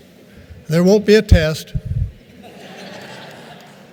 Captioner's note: chuckles